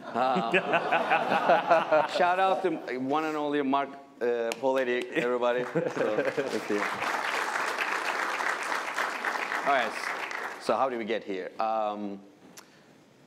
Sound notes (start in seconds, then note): 0.0 laughter; 5.2 applause